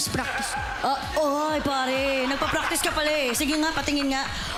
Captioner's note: laughter